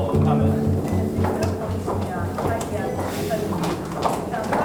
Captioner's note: footsteps